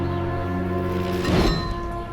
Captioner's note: metallic schwing